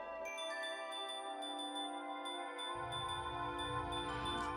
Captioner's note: chimes jingle